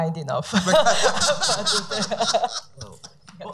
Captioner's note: laughing